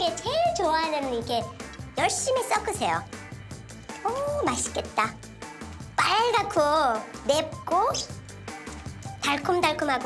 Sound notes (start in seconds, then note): none